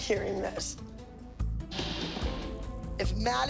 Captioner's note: loud crash